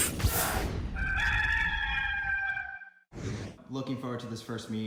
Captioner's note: rooster crows